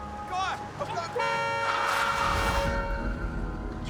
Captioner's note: car horn honks; tires screech